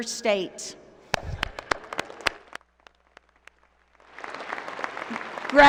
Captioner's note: applause